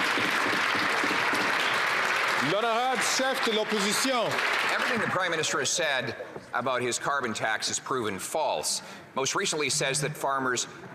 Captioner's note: some Applause